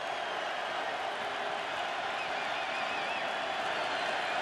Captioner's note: cheers